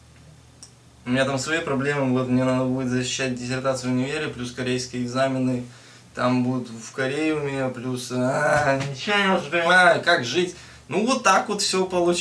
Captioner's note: random mumbling in frustration